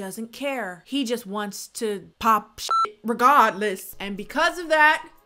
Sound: beep

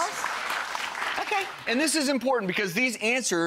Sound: audience applauding

